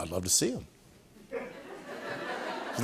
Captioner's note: laughter